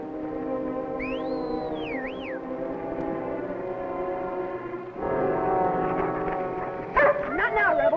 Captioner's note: Ricky whistling; Rebel barking